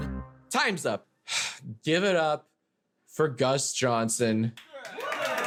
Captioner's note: sighs